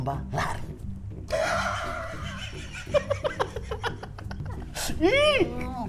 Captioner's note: laughing cynically